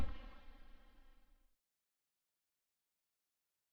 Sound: silence

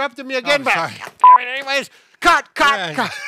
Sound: beep; laughs

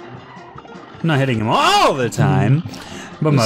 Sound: raises voice

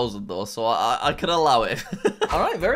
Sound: laughs

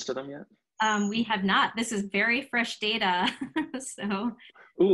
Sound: laughing

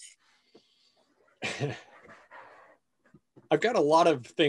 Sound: chuckles

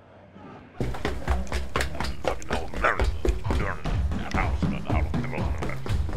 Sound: grumbling under breath; heavy footsteps

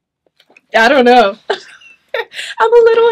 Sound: chuckles

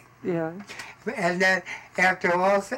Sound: voiceover

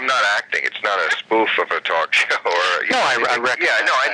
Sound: laughing

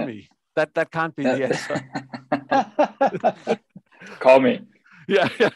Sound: panel attendees chuckling

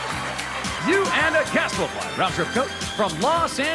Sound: cheers and applause

